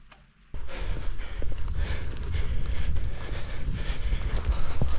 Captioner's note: heavy breathing